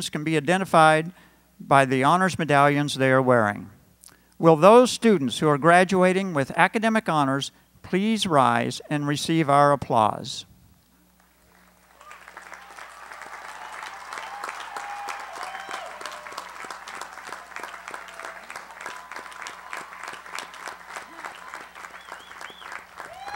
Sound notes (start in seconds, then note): 11.1 applause